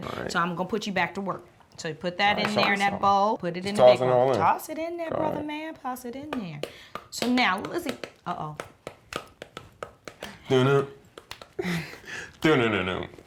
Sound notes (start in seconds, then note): 9.0 tapping sound; 10.3 singing beats